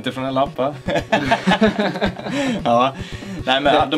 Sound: laughs

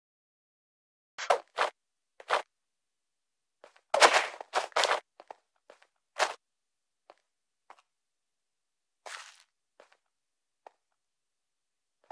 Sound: footsteps

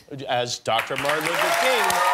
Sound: cheers and applause

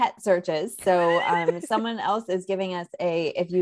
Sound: laughs

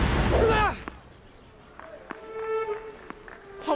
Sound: grunts

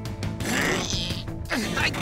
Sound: grunting

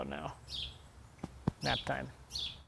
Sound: taps

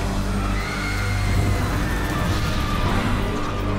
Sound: screaming

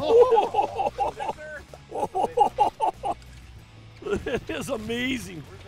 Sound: laughing

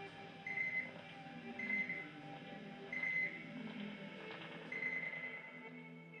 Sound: beeping fades

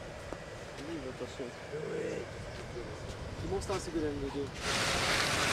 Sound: speaking foreign language

